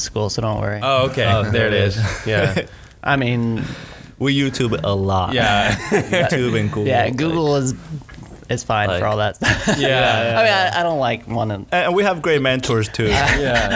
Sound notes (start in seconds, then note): 9.4 laughs